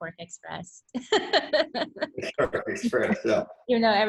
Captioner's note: laughs